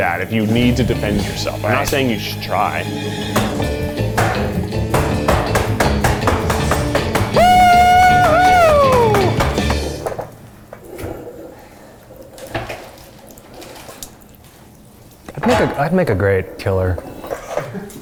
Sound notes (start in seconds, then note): 2.9 skillet banging; 7.2 cheering; 11.1 knife scraping